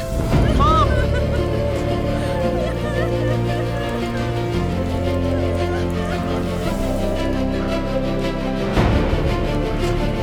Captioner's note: emotional reunion cries as music plays